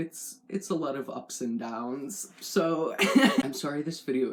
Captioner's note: laugh